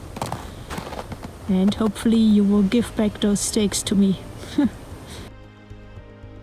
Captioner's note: laughs